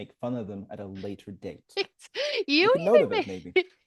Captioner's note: laughs